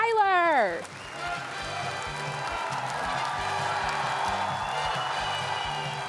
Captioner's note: audience applauding and cheering